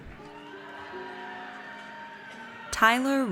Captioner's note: audience cheers